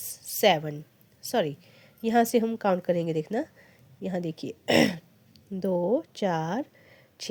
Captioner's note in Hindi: गला साफ़ करने की आवाज़